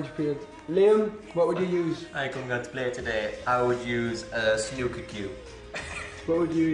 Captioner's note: laughs